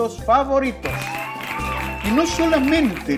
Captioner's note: clapping; cheering